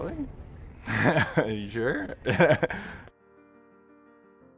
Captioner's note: laughs